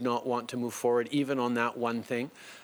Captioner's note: speaking French